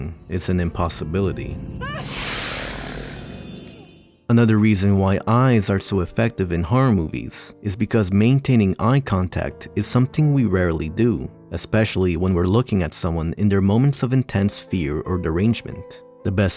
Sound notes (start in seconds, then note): 1.8 scream; 1.9 alien hiss